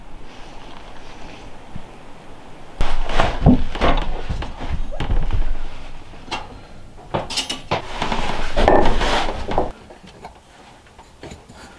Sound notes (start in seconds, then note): 2.8 cabinets clattering; 8.9 tools rustling